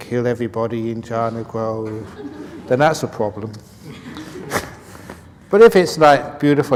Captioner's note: laughs